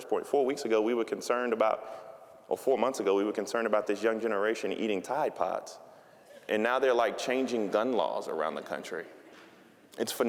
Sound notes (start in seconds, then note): none